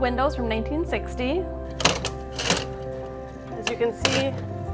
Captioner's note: opens the window loudly; opens the window loudly